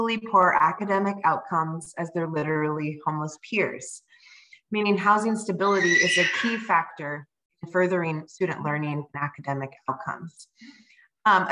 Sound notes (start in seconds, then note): 5.7 child screaming